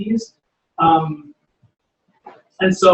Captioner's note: pause